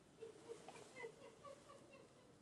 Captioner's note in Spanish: Risa fantasma